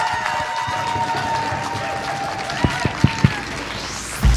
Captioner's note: applause